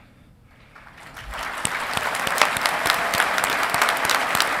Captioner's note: audience clapping